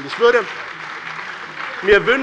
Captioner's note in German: Beifall bei dem BÜNDNIS 90/DIE GRÜNEN und der CDU